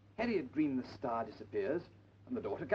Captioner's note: none